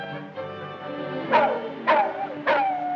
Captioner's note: barking